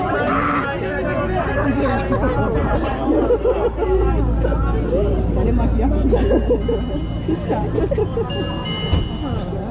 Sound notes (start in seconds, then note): 6.0 laughing